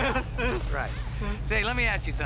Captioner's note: laughing